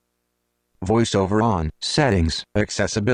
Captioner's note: electronic Voice